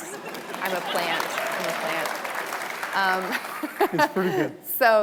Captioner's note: audience applauding